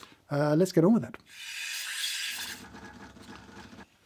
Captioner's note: steam wand hissing; coffee machine burbling